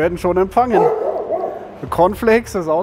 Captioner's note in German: Hundegebell